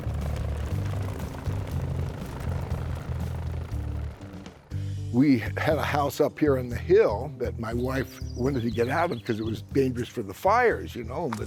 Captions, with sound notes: (helicopter blades slapping) (helicopter engine revving) - We had a house up here on the hill that my wife wanted to get out of because it was dangerous for the fires, you know.